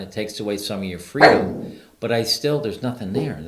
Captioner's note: Ruby barks